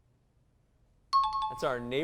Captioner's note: high-pitched tones